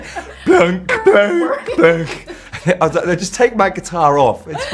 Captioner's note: imitates guitar